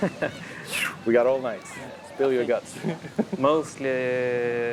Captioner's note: laughs